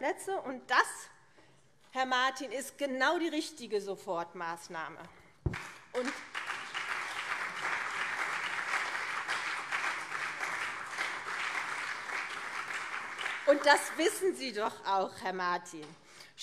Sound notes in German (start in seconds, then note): 5.5 Beifall CDU und SPD